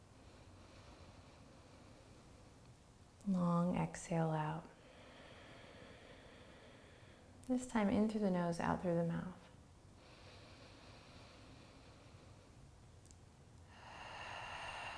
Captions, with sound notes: (inhales deeply) Long exhale out. (exhales) This time, in through the nose, out through the mouth.